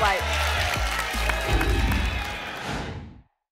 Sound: whoosh

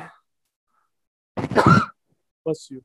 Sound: coughs

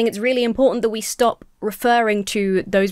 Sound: none

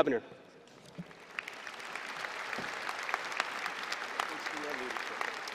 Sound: applause

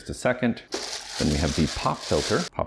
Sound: plastic crinkling

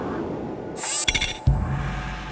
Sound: machine zipping

